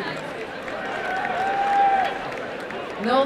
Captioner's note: applause and cheering